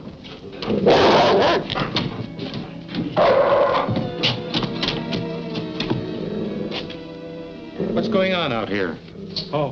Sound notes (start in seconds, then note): 0.8 dog barking